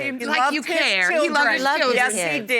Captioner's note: all arguing